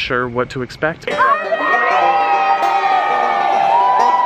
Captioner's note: cheering